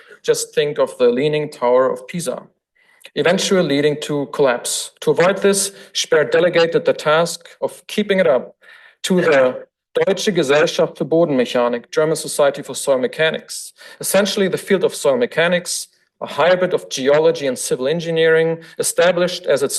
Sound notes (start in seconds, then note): 9.4 foreign language